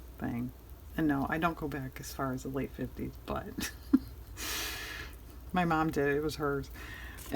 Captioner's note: laughs